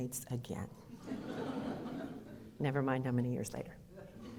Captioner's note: audience laughter